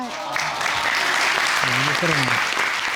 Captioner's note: audience cheering